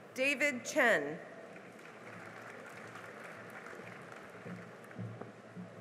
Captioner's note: cheering and applause